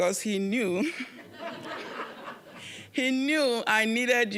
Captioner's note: audience laughing